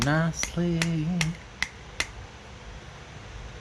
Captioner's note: tapping